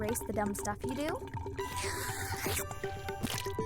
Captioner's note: slurps